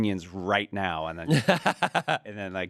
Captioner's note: laughs